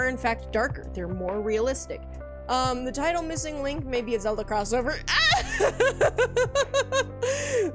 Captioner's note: laughs